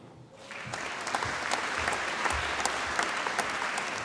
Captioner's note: applause